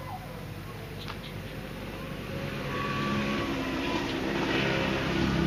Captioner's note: distant shouting; low traffic rumbling